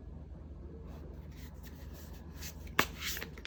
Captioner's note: drawing cards